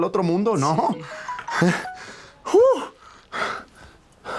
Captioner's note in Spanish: Aviso de mensaje